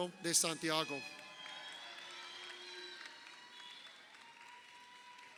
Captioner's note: crowd cheering